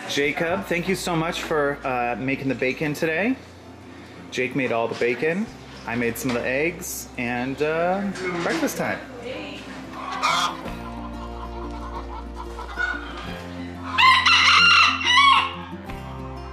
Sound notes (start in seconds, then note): 10.0 rooster caw; 13.8 rooster crow